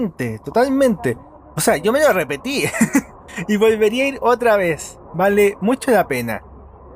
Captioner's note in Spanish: risas